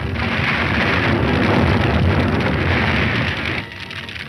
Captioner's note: fire raging